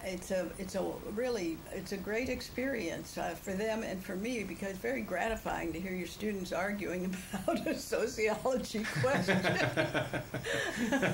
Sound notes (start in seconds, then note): 8.8 laughter; 8.9 laughs